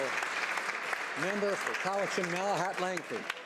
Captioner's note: speaking native language; some Applause